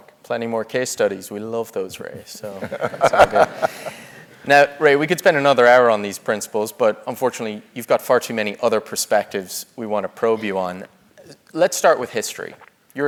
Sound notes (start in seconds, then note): 2.4 laugh